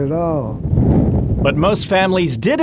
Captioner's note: wind blowing